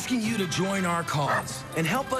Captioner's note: bark